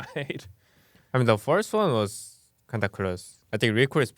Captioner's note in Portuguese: risos